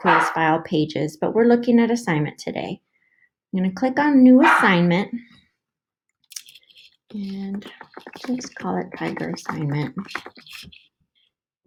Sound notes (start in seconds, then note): 4.4 little annoying Pug barks